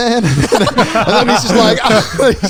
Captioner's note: laughing